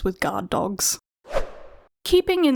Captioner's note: whoosh Sound